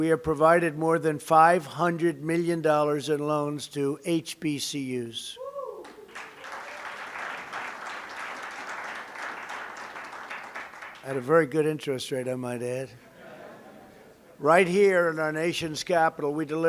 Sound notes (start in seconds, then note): 5.8 applause; 13.1 laughter